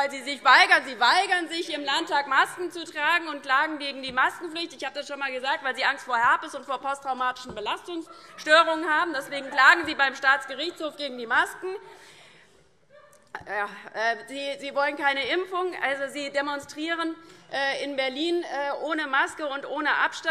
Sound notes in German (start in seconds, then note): 8.1 Vereinzelte Heiterkeit